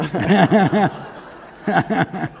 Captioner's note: laughter